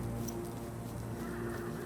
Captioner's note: horse neighing